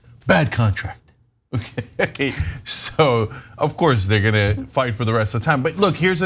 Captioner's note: laugh